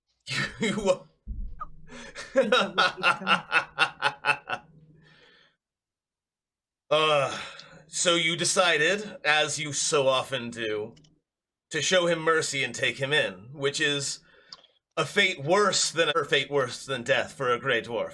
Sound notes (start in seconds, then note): 2.1 laughing; 7.0 sighs